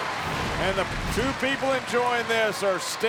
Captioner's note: graphics whooshing